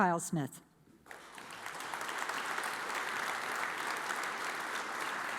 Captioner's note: audience applauds